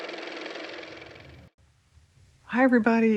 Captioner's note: car motor